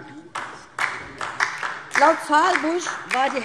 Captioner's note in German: Beifall DIE LINKE